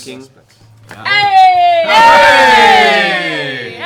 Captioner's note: cheering